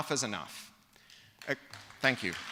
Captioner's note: applause